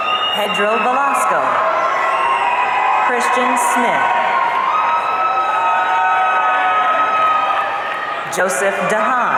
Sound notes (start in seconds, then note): 4.8 audience cheering